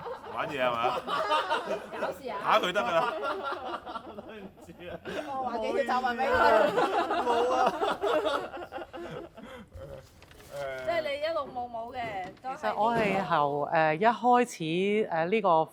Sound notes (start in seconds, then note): 6.3 laugh